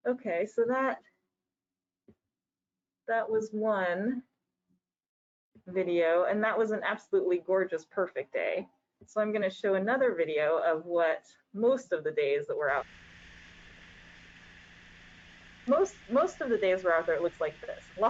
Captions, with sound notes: Okay, so that was one video. And that was an absolutely gorgeous, perfect day. So I'm going to show another video of what most of the days that we're out. (boat engine roaring) Most of the days we're out there, looks like this.